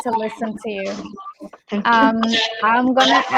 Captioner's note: chatter